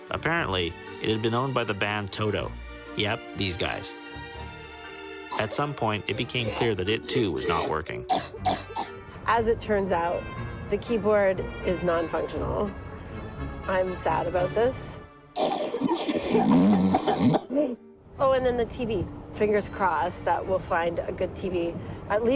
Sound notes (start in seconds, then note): 15.3 coughing; 15.4 farting